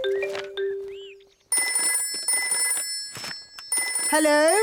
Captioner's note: phone ringing